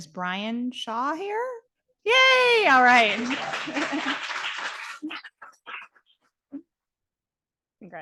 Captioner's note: audience applauding